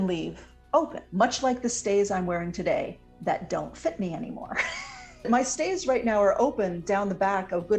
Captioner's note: laughs